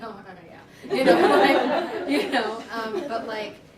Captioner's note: laughter